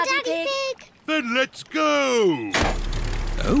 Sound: lever clunks

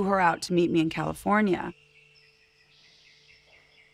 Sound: birds chirping

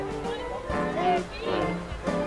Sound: laughing

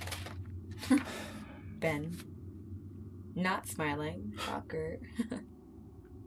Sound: chuckles

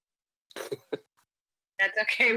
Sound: laughs

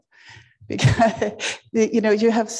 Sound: chuckles

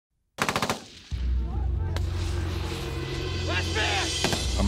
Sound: gun shots firing; voiceover

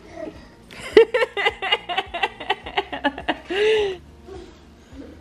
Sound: laughs

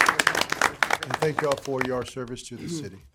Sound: applause

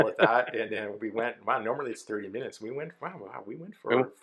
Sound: laughs

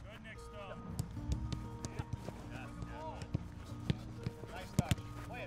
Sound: players talking and kicking the ball

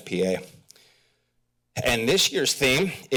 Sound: pause

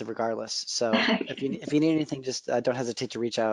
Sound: chuckling

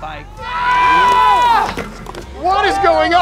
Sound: yelling

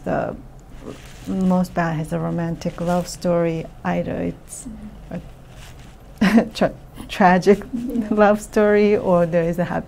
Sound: laughs

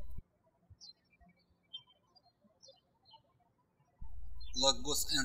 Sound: birds chirping

